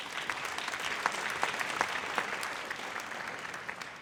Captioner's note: audience applauds